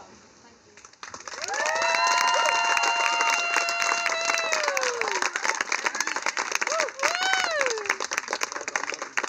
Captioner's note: clapping and cheering